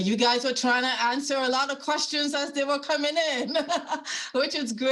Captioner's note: laughing